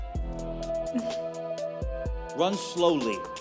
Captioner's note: laughs